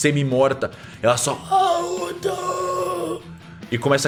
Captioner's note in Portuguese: grunhidos